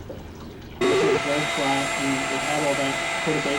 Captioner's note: whirring sound